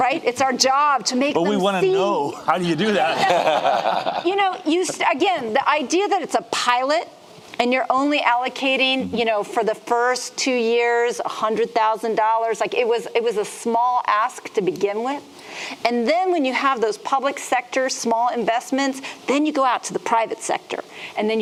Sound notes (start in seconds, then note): 2.3 laughing